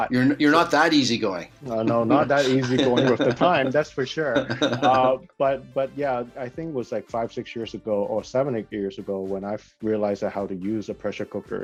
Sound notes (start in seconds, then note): 1.7 laughs; 4.2 chuckling